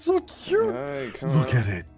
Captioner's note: mumbling